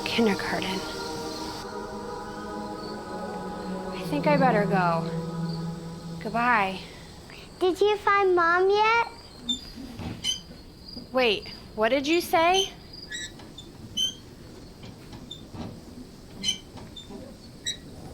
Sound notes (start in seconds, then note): 9.6 bicycle wheel squeaks; 13.1 bicycle wheel squeaks